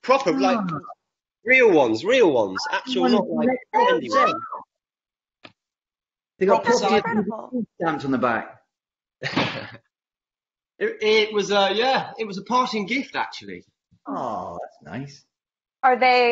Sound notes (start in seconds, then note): 4.3 group mumbles; 9.2 laughs